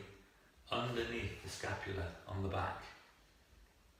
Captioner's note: static holds